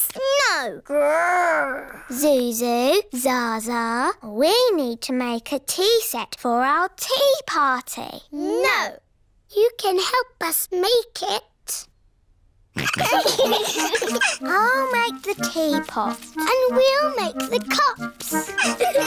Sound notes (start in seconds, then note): 12.8 all laughing; 18.3 all giggling